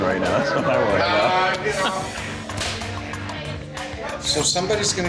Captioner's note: people chattering